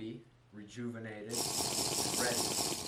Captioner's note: minecraft slurp